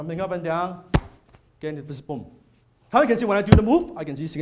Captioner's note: body smack